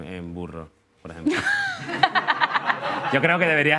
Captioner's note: laughter